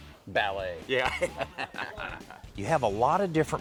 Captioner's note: laughs